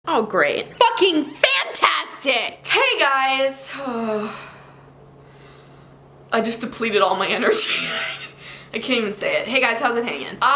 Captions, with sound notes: - Oh, great. Fucking fantastic! Hey, guys. (sighs) I just depleted all of my energy. (laughing) I can't even say it. Hey guys, how's it hanging?